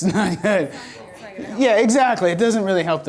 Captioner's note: voiceover